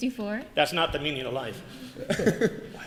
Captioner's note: laughter